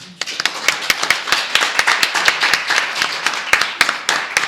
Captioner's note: audience applauds